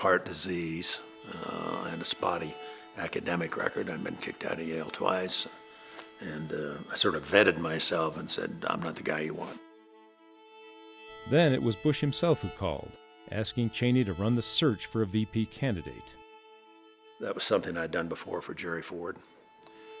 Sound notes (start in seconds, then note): 11.2 voiceover